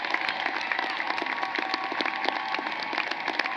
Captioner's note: cheering and applause